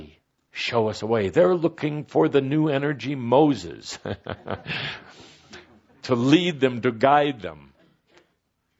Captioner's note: Kuthumi chuckles